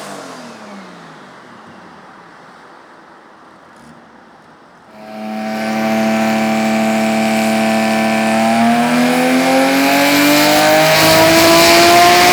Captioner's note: engine revving